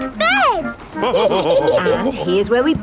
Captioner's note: all laughing